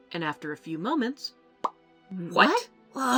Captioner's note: pop!